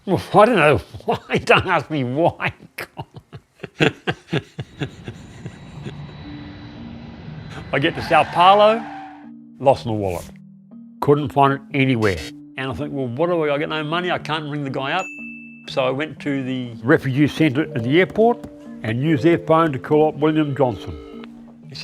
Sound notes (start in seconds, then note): 2.6 laughs